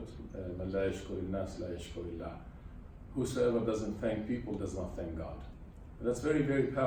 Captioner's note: speaks arabic